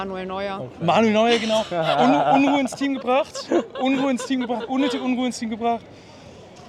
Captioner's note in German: gelächter